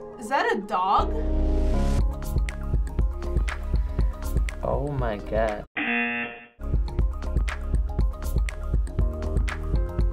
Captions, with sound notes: - Is that a dog? - Oh my god. (buzzer)